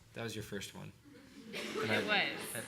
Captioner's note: laughter